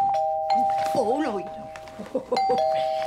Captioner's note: doorbell ringing